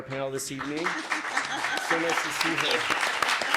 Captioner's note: audience claps